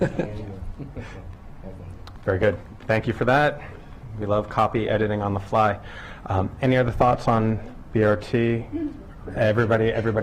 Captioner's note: laughter